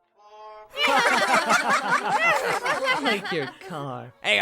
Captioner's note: All but Yamcha & Bulma laugh at Yamcha's expense